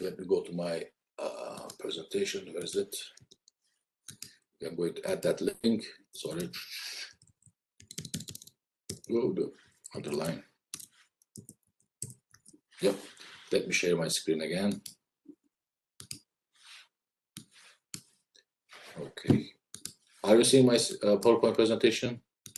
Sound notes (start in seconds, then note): 7.9 keyboard clanks; 16.0 mouse clicks